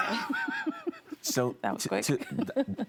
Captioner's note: laughing